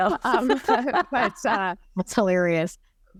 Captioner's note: both laughing